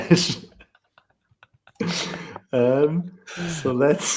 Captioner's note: laughter